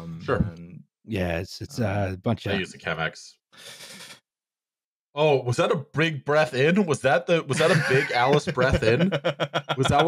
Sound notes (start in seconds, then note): 3.6 sudden intake of breath; 7.5 laughing